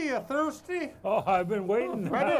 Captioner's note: chuckling